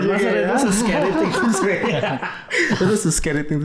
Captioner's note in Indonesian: tertawa